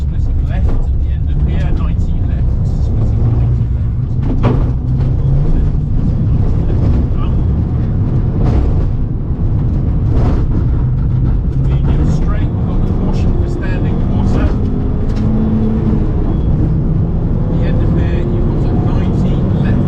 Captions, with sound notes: Splitting left at the end of here, 90 left. Slipping 90 left. (engine rumbling) You're straight, you've got the caution for standing water. At the end of here, you've got a 90 left